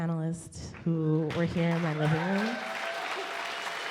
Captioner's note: audience cheers and applauds